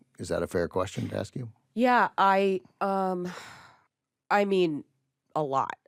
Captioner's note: sighs